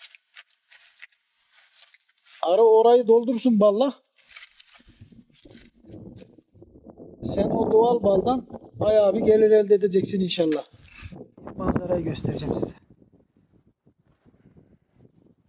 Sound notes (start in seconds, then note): 0.0 sound while plastering the mud; 4.2 rustling and wind noise; 13.8 wind noise and rustle